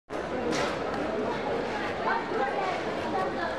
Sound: market chatter

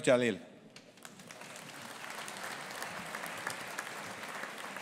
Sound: audience applauding

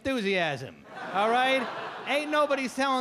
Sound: audience laugh

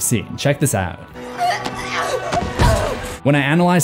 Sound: woman wimpering

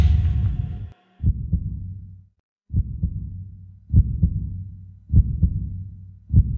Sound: heartbeat

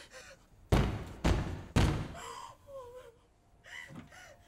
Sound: door thuds loudly

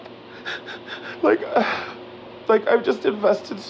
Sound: tearfully; sighs

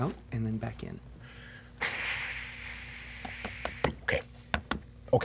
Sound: exhaling

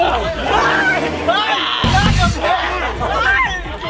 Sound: shouts

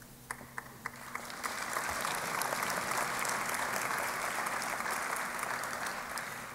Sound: applause

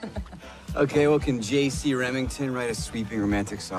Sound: chuckles

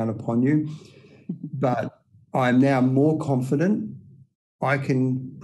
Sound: chuckles

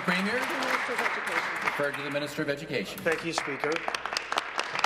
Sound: applause

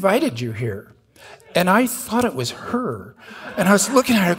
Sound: audience laughing

